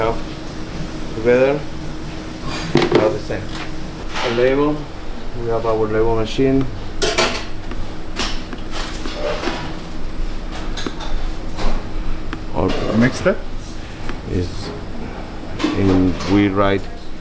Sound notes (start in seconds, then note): 7.9 door opening